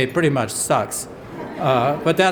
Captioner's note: laughter